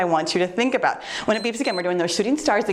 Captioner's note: timer beeps